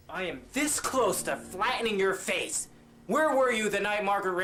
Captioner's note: none